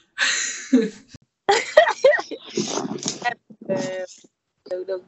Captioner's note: laughing